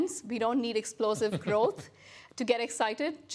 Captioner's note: laughs